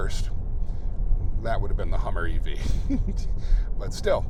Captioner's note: laughs